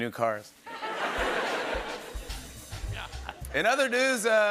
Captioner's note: laughter